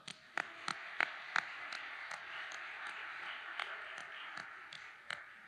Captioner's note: audience applauding